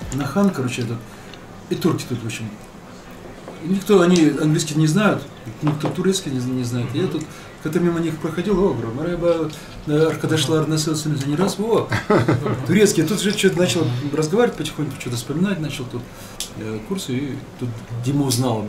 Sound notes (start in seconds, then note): 10.7 speaking in Turkish